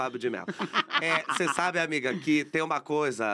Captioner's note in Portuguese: risos